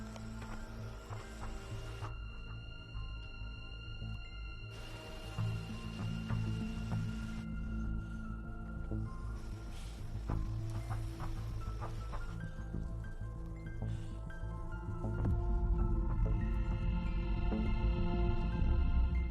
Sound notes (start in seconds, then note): 0.9 train whistle blowingwing in distance